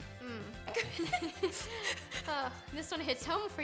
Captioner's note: giggling